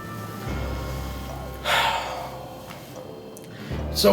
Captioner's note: sighs